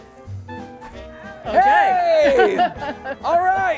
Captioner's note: laughter